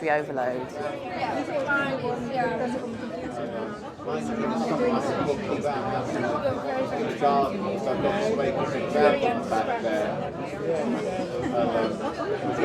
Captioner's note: noisy bar sounds